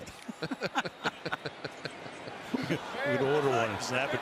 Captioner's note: laughter